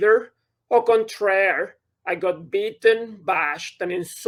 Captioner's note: speaking in foreign language